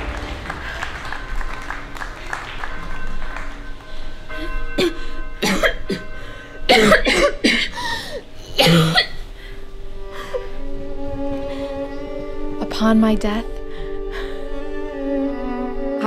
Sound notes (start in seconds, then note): 1.5 church bells tolling; 5.1 coughing heavily; 10.1 gasps